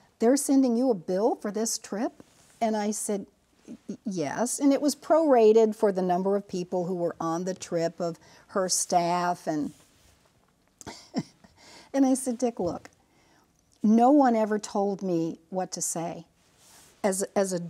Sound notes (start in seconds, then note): 10.8 chuckles